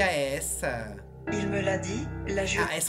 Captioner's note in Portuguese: narração em francês